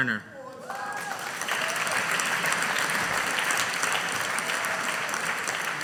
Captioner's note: audience applauding